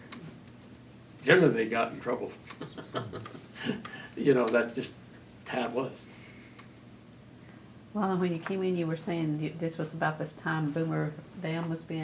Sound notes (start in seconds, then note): 2.6 laughs